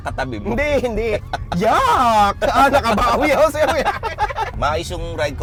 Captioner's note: both laughing